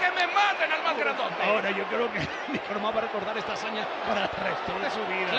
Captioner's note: laugh